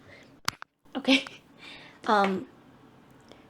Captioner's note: laughs